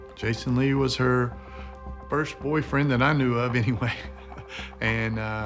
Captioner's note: chuckles